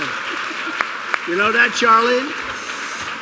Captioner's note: laughter